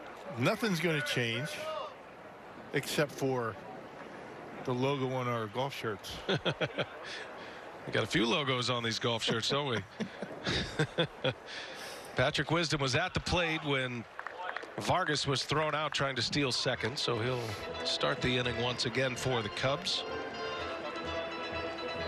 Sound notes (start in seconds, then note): 9.2 laughing